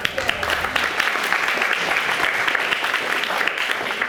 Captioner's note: audience applauding